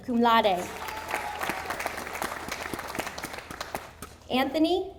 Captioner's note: audience applauding